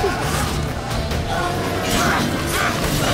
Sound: bellow

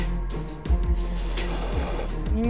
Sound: slurping

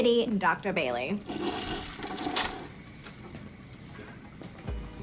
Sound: toilet flushes

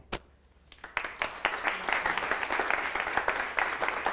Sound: clapping

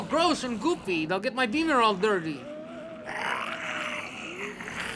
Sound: growling

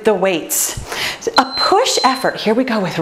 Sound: timer beeps

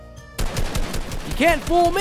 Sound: gun blasting

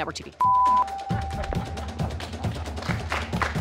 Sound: beeping; group laughing and clapping

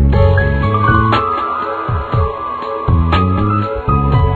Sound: mysterious chime

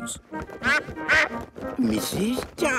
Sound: quacks

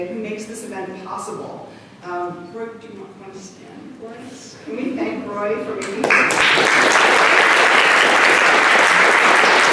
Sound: clapping

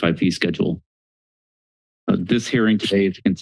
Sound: silence

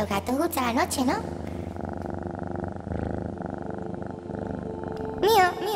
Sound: Clooby is purring

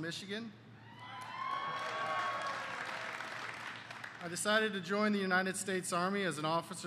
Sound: applause

